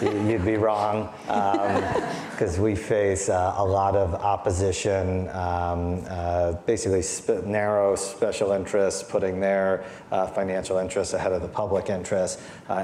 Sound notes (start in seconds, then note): 0.0 audience laughing